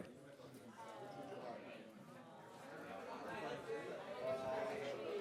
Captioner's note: chatter